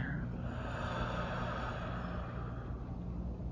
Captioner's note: exhales